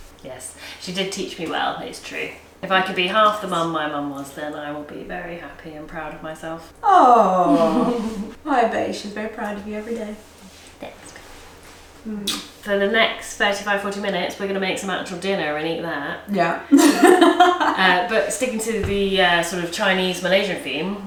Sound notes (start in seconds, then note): 12.2 lips smack; 16.7 laughing